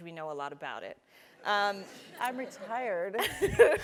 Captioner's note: laugh